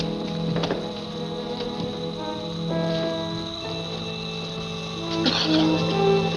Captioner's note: ominous music; gas hissing